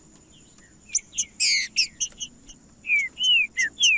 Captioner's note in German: trinca ferro cantando